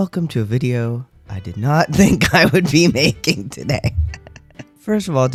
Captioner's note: laugh